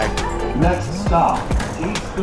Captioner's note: pa announcement